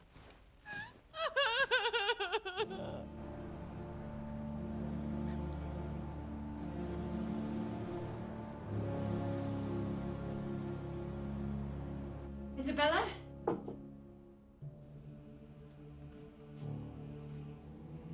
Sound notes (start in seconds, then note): 0.6 crying; 3.4 soft dramatic music; 14.9 soft dramatic music